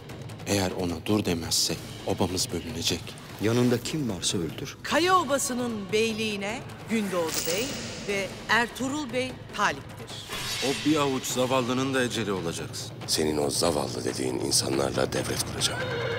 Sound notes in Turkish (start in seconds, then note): 0.3 Gündoğdu dış ses; 10.5 Gündoğdu dış ses